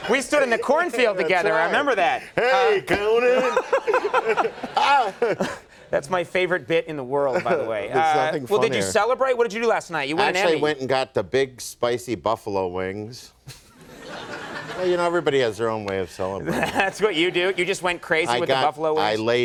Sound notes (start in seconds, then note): 13.6 audience laughing